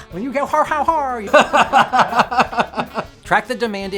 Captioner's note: stammers and laughs